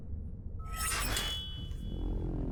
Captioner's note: blade clinks; deep tense music